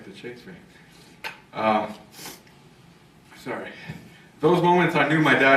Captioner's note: sniffle